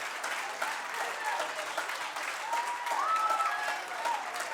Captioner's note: applause